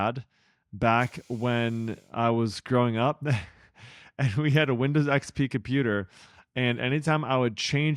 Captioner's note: laughs